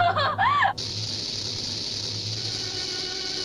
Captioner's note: screaming; rattling